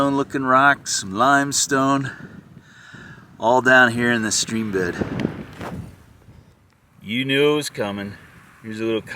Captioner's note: wind noise